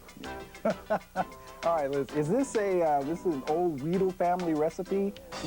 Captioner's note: laughs